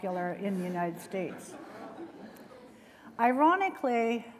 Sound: laughter

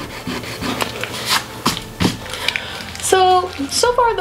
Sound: palm rubbing

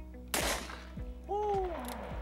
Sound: revolver popping

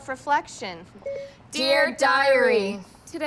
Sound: phone beeps

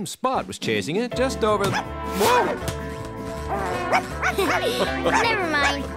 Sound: barking

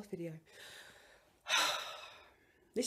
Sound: sigh

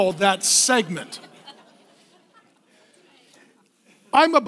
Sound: laughing

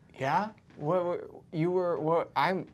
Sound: stuttering nervously

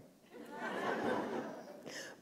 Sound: laughter

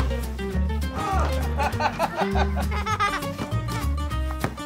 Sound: laughter

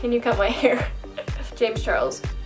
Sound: laughs

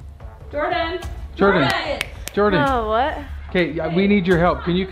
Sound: snaps fingers

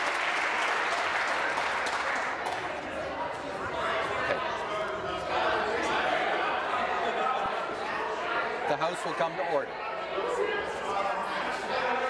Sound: some Applause

